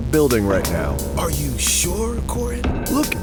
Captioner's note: bang